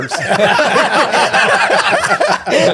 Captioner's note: all laughing